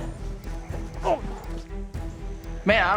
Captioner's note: grunting